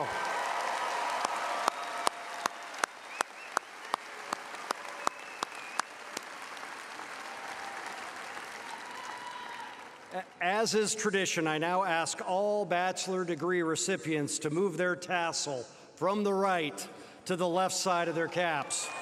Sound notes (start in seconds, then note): 5.0 applause